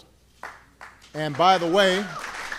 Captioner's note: applause